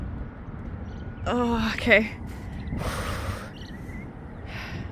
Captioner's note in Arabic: تنفس عميق